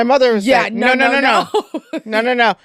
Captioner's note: laughing